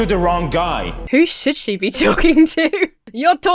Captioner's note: Emma laughs